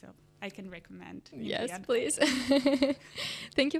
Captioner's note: laughs